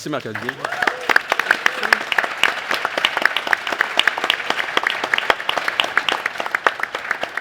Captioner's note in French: applaudissements